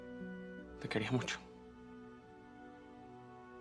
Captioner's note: spanyol